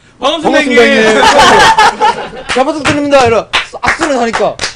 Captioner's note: TN: In an accent